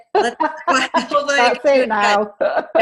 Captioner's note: laughs